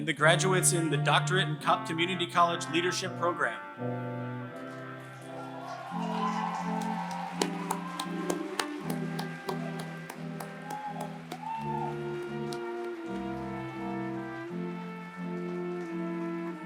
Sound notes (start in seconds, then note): 3.7 applause